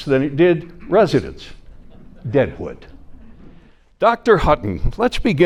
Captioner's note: audience chuckling